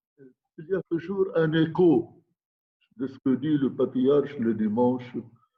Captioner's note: speaking in foreign language